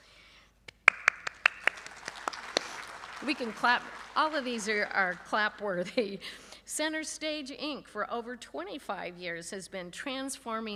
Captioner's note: applause